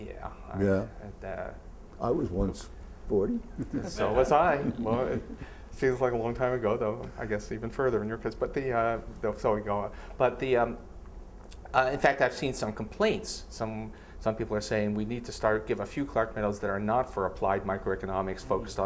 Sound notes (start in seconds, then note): 3.4 chuckles